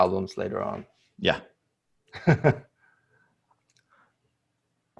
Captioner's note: laughs